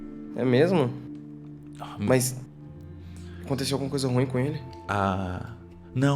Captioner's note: none